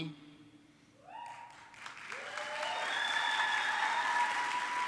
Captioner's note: audience clapping